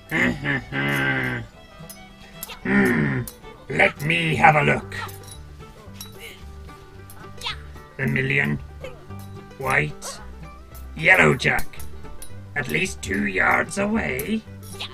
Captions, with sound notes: [grumbling] Hmm, let me have a look. [Billy exclaims] "Vermilion..." "White..." "Yellow jack." "At least two yards away"?